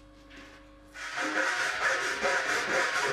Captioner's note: grinding